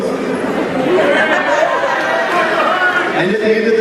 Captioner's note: crowd Hoorays